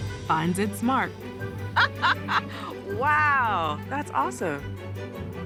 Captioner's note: laughs